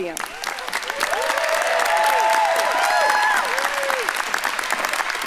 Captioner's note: audience applauding and cheering